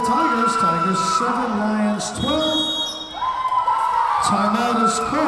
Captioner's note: whistle blowing